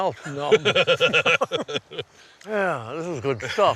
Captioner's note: laughs